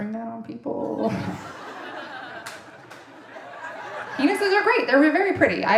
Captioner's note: audience laughing